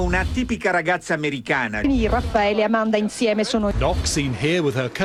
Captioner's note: speaking foreign language